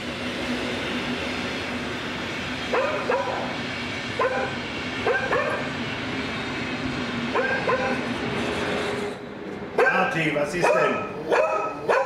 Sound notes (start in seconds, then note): 0.2 train passing; 2.7 dog barking; 7.3 dog barking; 10.6 dog barking